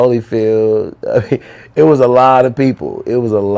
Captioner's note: laughter